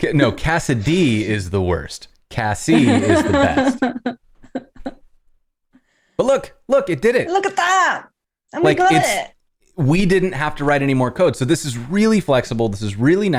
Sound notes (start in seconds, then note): 2.7 laughter